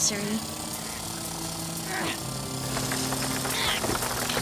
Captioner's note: drilling